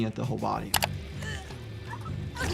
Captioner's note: mouse clicking; person grunting